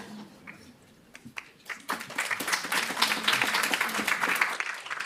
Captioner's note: applause